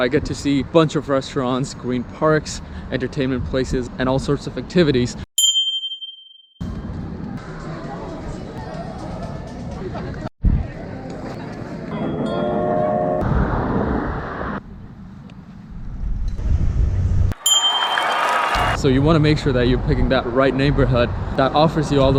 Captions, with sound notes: I get to see a bunch of restaurants, green parks, entertainment places and all sorts of activities. (ring of of a bell) (background chatter) (train) (ring of a bell) (cheering) - So you want to make sure that you're picking that right neighborhood that offers you